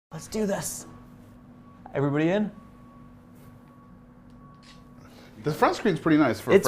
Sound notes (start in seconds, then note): 4.6 camera shutter clicks